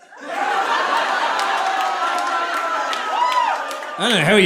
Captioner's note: audience laughing